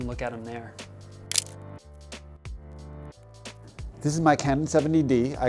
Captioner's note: camera shutter clicks